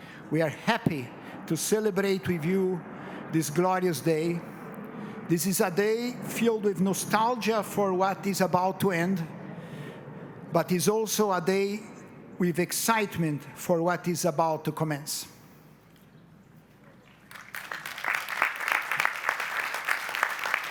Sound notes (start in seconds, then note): 17.0 applause